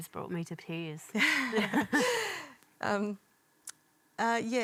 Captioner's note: both laugh